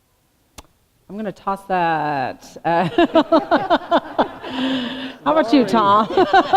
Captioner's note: laughter